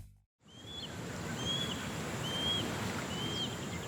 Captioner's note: birds chirping